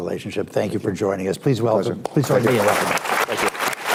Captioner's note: applause